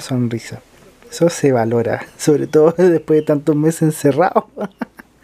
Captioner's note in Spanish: risas